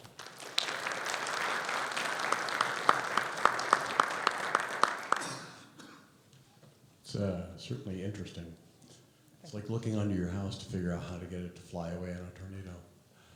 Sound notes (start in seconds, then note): 0.0 audience applauding; 5.0 audience member coughing